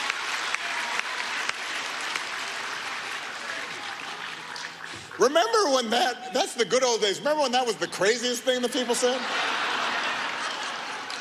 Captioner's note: applause